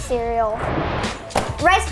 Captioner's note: animated explosion booming; cereal box thudding